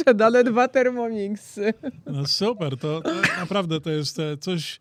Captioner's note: śmiech